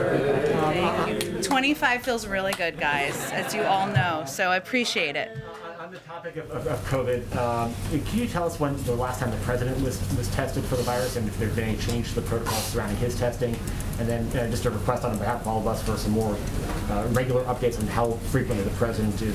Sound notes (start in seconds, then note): 5.2 laughter